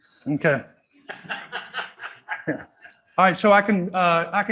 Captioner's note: student laughing